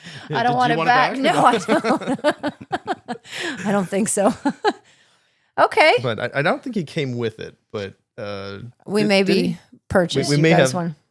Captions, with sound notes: I don't want it back. Did you want it back? No, I don't. (laughing) I don't think so. Okay. But I don't think he came with it, but. We may be purchased, you guys want.